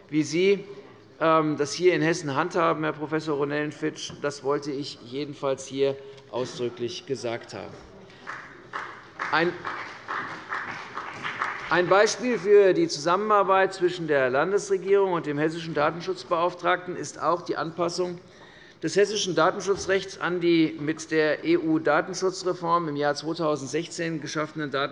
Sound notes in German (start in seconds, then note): 8.1 Beifall bei der CDU und dem BÜNDNIS 90/DIE GRÜNEN